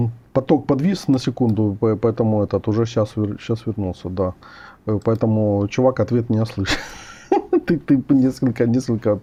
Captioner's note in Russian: смех